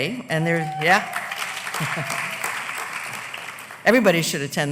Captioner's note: applause